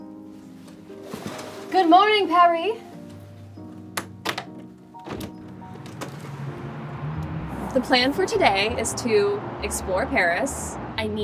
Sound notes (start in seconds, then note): 0.3 drapes fly open; 4.9 latch clicks; 6.0 wind blows